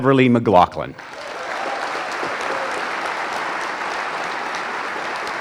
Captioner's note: audience applauding